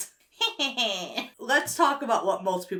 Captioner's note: laughs wickedly